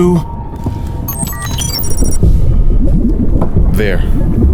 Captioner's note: system beeping